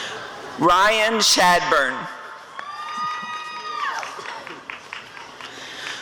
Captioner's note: applause and cheering